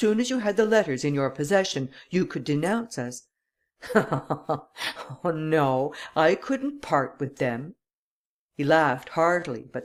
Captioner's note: laughter